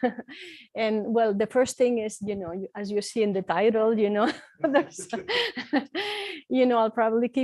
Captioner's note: laughs